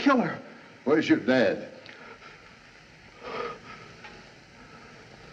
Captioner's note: shuddering